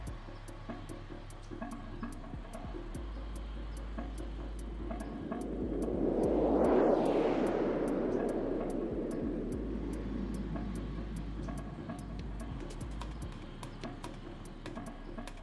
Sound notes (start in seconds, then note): 6.5 plane whooshing; 12.8 tense music